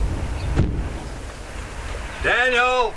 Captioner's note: birds chirping; car door thudding